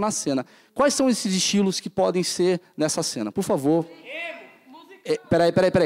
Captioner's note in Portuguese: plateia dá sugestões